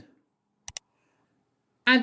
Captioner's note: click sound